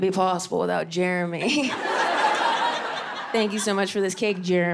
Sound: laughs; audience laughing

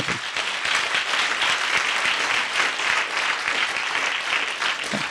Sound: audience applauding

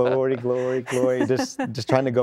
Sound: laughter

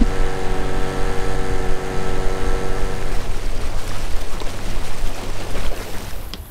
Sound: boat motor

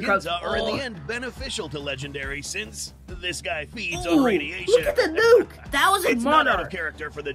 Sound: laughs

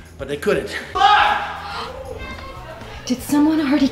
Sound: yelling

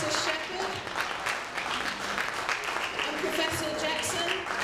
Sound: applauding

